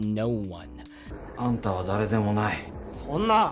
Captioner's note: speaking japanese